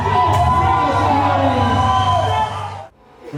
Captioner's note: audience Applause